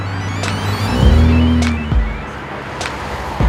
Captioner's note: none